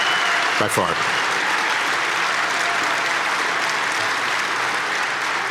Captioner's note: audience clapping